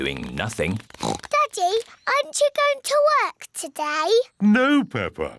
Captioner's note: oinks